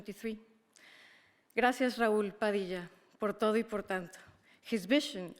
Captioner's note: speaker speaking in a foreign language